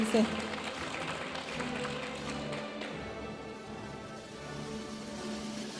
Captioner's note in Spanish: aplausos de la audiencia; continúa la música majestuosa suave en el fondo